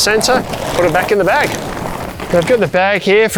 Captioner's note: tent rustling